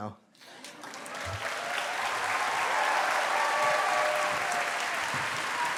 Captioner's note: cheers, applause